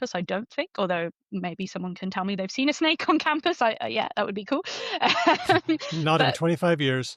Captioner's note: laughs